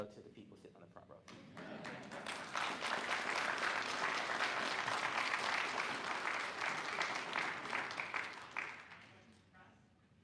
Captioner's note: applause